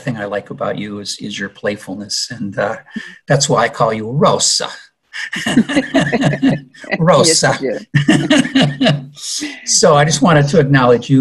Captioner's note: with an accent